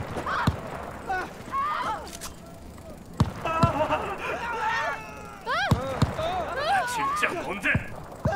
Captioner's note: screaming everywhere